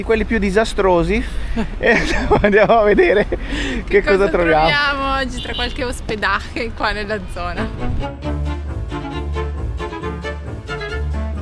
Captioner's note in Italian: risate